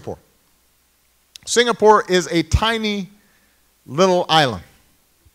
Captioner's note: none